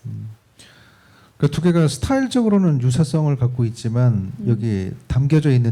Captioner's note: speaking korean